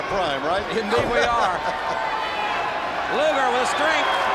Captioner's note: laughs